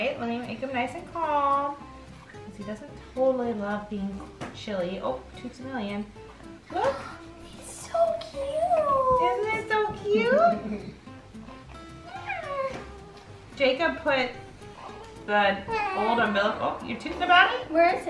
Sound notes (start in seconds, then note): 7.9 gasping; 10.2 laughing